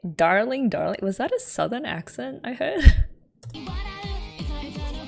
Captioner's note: laughs